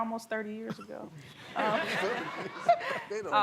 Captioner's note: laughter